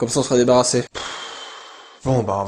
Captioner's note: sigh